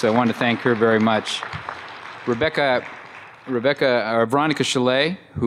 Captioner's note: applause